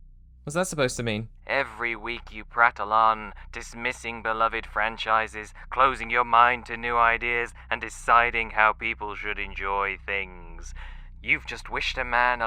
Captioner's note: voice on phone